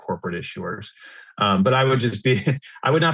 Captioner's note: laughs